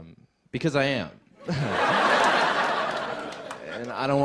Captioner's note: laughter